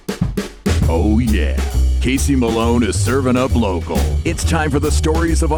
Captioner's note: jazzy music; voiceover